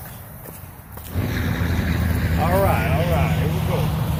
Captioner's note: loud wind noise